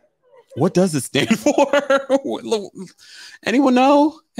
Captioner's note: laughs